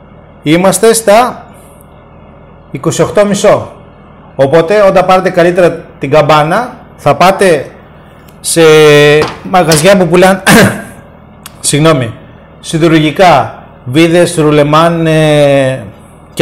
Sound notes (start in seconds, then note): 10.4 cough